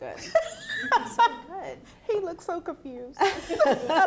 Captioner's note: laughs